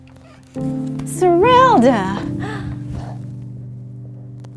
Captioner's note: door knocks